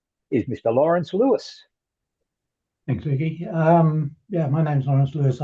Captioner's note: Australian accent